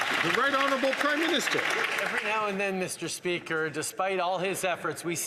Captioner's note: some Applause